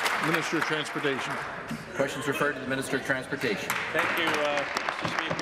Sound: applause

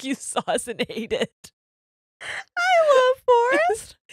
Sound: both laugh

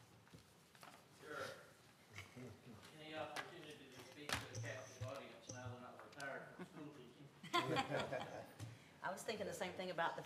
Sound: laughter

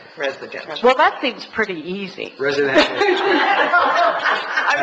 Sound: audience laughs

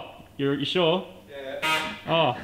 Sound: grinding noise

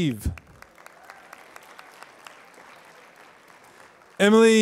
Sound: applause

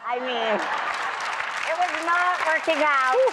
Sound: applause

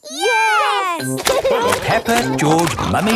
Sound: laughing

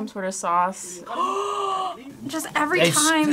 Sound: gasps

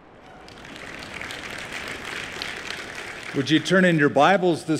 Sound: applause

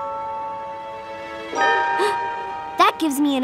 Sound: gasping

